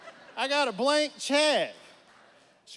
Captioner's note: audience laughs